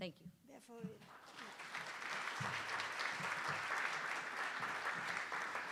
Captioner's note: attendees applauding